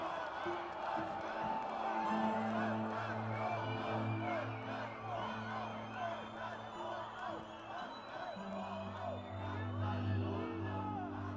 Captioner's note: chant